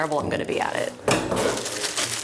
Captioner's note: styrofoam clatters; plastic rustles